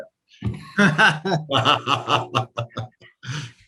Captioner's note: laughter